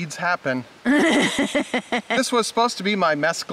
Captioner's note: laughing